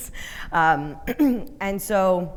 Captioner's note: clearing throat